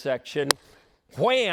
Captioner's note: smack